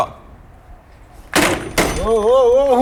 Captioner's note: phone hits